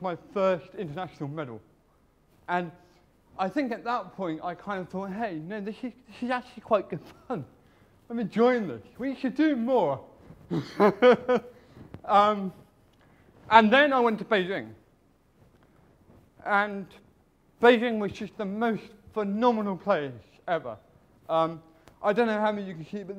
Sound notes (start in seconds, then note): 10.5 laughs